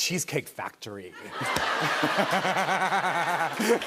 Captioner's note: laughter